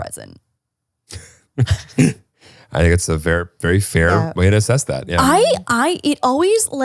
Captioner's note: laughs